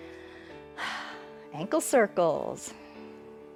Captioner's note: exhales